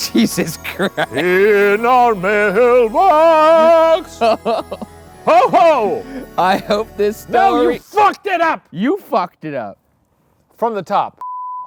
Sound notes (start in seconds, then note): 3.9 laughing